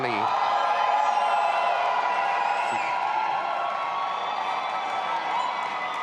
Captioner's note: audience applauding and cheering